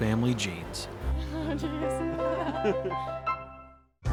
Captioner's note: laughing; upbeat music